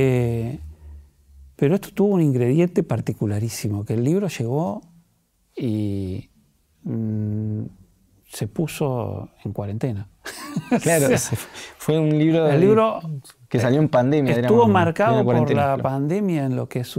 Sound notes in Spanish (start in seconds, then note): 10.2 risas